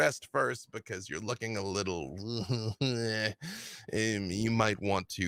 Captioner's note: grunts